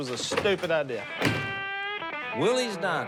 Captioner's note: door shuts